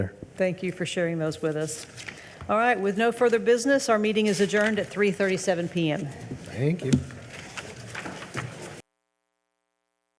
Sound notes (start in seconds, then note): 5.8 papers rustling